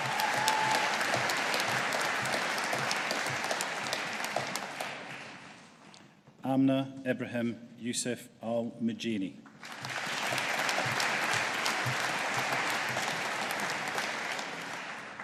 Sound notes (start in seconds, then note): 0.0 audience applauding; 9.6 audience applauding